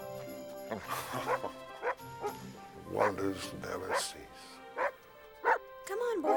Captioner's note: chuckles